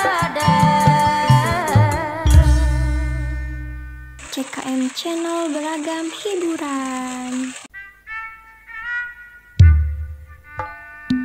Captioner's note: applause